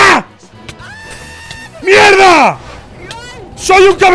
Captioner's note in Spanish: grita mucho; grita